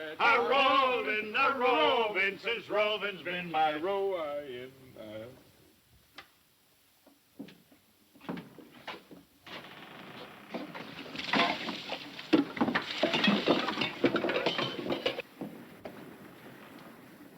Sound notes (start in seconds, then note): 9.6 ship creaking; 13.0 cups clattering